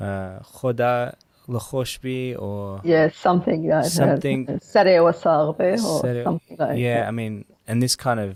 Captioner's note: foreign language; foreign language